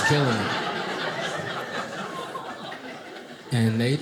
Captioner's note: audience laughing